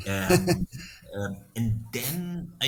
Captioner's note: laughing